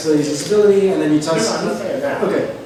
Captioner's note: voiceover